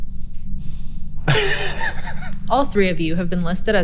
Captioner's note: group laughing